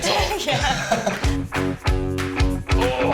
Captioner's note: laughs; upbeat music